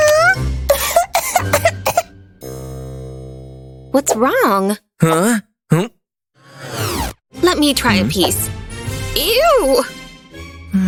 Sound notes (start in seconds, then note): 5.7 coughing